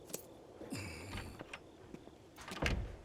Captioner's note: door opens; door clicks shut